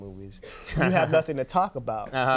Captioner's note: Conan laughs